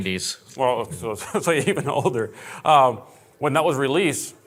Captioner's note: laughing